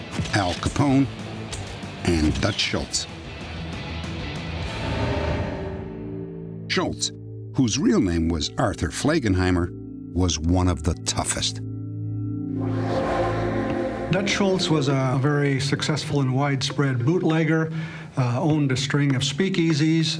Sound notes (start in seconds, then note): none